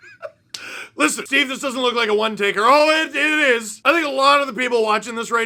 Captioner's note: maniacal laughter